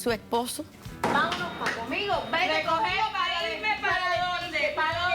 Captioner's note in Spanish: Palmadas